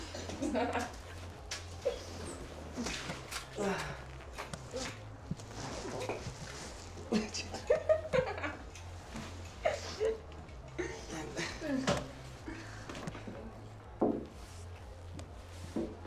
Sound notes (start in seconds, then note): 0.0 Scarlet laughing; 7.6 Scarlet giggling